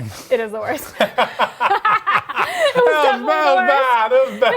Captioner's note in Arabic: يضحك